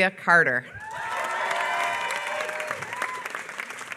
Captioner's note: applause